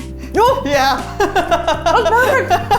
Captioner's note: laughing